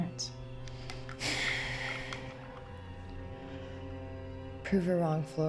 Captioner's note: Claire sighs